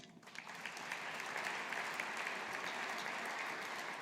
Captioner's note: audience applauding